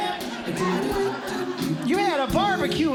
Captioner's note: audience Laughing